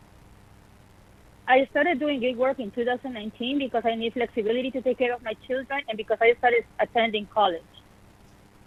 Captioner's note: speaking in spanish